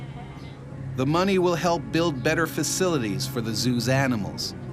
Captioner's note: voiceover